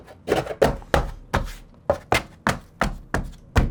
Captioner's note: banging